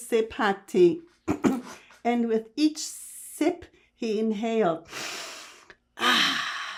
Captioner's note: clears throat